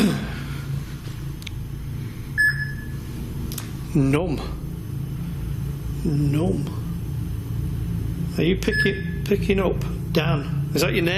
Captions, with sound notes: (beeps) - Nomp, nomp. Are you picking up, Dan? (beeps)